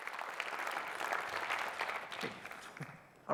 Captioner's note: audience clapping